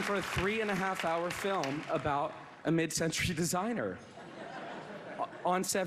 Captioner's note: applause